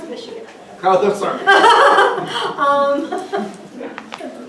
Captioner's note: laughter